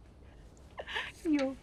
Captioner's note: Prudence chuckles